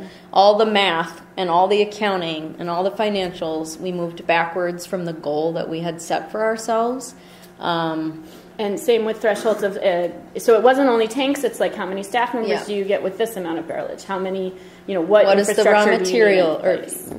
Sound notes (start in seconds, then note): 10.4 voiceover; 15.1 voiceover